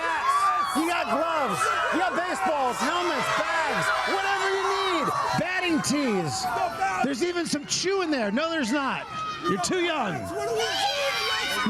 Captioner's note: cheers and applause